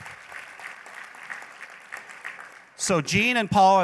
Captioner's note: applause